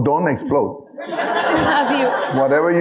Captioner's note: audience laughing